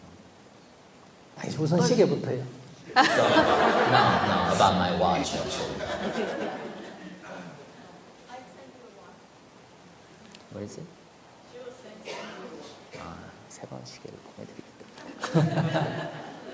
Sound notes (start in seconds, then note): 5.2 audience/Questioner Laughter; 15.0 /Audience Laughter